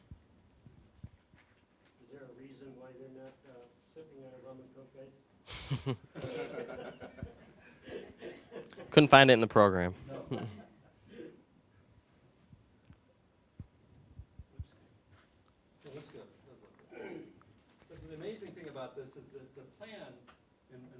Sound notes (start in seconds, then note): 6.1 audience laughing